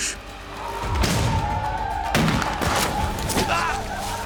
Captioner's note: gunshots